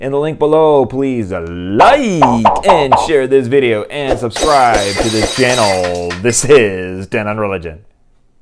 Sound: glass breaking

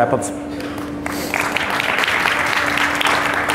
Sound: audience claps

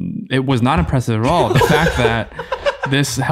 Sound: all laughing

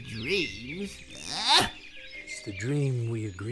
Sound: Sylke scoffs

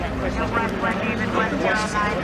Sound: police radio chatter

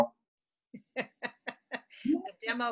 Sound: laughs

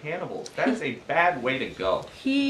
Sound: laughter

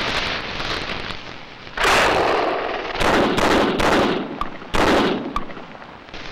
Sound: gunshots

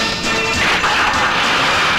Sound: car engine starts

